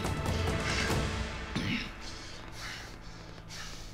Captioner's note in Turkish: Nefes sesi